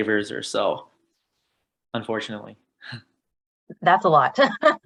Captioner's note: chuckles; laughs